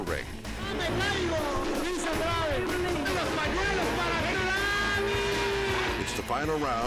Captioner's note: engine rumbling; announcer shouts in Spanish